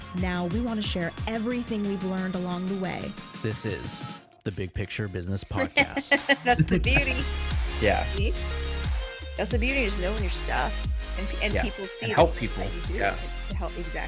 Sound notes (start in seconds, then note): 5.5 chuckles; 5.5 laughing; 8.4 upbeat music